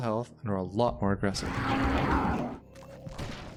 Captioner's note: Angry red dude sounds